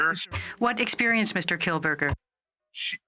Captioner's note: speaking French